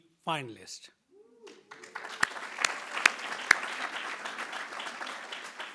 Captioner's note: attendees applauding